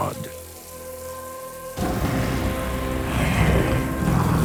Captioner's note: growling